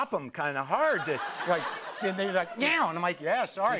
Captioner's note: laughter